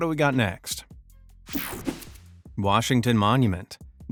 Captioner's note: image whipping effect